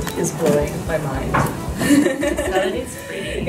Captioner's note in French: rires